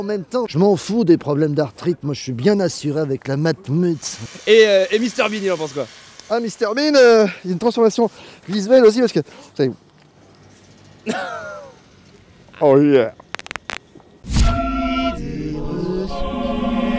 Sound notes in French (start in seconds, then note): 11.0 rire; 13.2 craquements de doigts x2